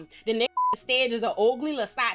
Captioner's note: beep